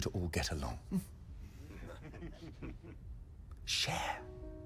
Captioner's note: men chuckling